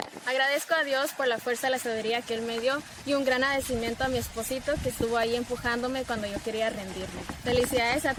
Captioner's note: speaking Spanish